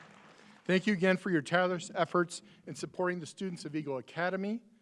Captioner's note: applause